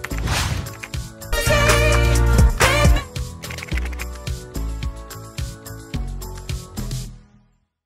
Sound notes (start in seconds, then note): 3.4 keyboard keys tapping